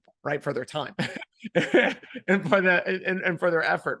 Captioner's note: laughing